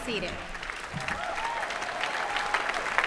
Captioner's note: applause